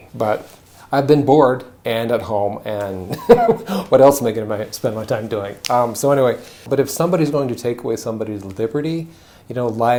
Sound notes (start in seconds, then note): 3.0 chuckles